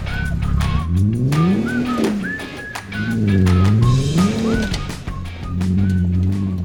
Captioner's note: laughs; engine revving; stones crunching